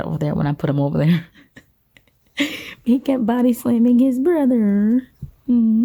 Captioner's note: laughs